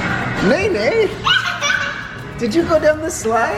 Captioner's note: loud laugh